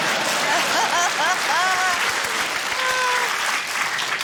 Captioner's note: cheering, applause, laughter